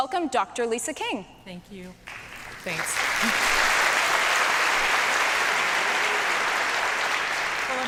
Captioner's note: applause